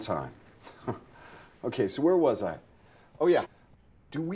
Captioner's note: scoffs